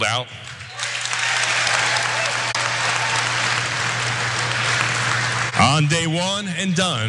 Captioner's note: applause